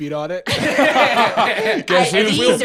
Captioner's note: all laugh